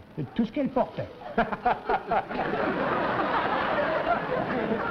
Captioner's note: laughs